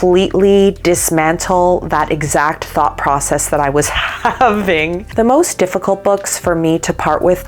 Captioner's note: laughing